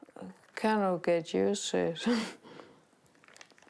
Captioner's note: chuckles